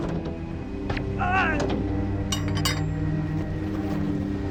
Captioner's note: groans; gun pops; hook clinking